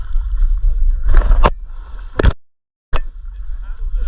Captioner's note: water sloshing